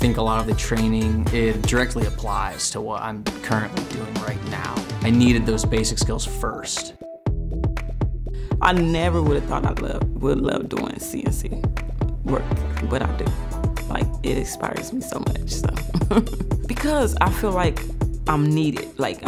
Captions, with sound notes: >> I think a lot of the training, it directly applies to what I'm currently doing right now. I needed those basic skills first. >> I never would have thought I'd love doing CNC work, but I do. Like, it inspires me so much, so. (chuckling) Because I feel like I'm needed,